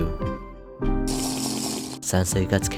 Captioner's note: slurp